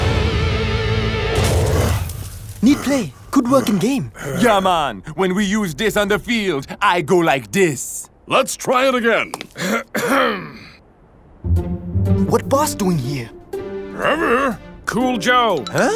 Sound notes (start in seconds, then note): 1.9 panting; 9.5 boss clearing throat; 13.9 grunting